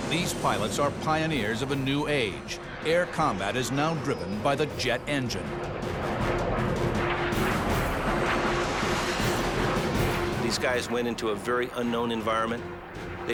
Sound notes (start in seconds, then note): 6.5 engines blaring